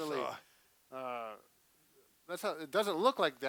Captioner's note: groaning